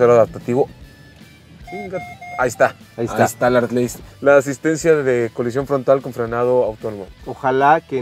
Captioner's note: alarm beeping